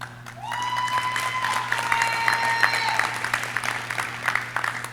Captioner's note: audience cheering